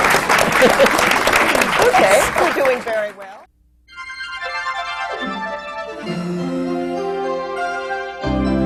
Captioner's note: applause